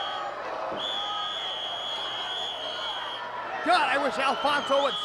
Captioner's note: whistle trills